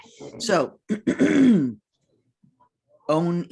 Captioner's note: clears throat